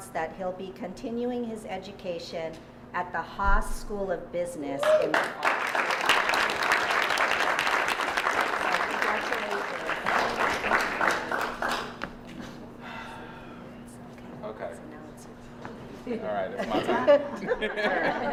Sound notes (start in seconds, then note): 4.8 applause